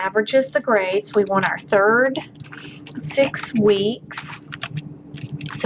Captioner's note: typing